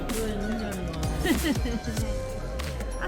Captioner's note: sinister laugh